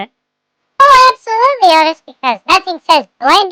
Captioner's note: sarcastically